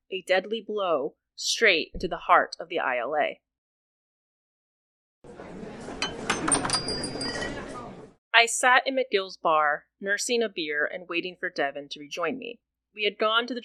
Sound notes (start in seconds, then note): 3.5 ambient bar sound